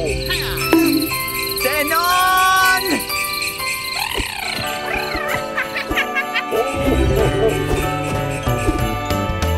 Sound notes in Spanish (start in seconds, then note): 5.1 Sonido de campanas